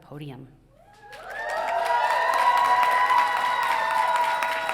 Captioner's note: audience cheering